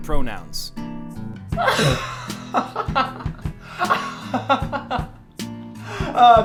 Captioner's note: laughs